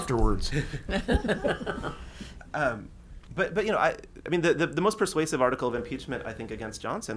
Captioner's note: laughs